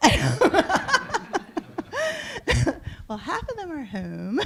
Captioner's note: laughter